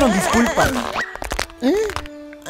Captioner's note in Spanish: chasquido huesos